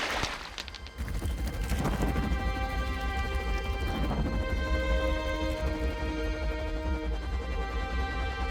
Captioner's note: splashing; whirring